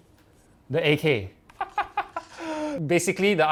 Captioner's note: laughs